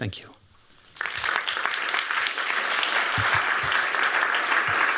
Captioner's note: applause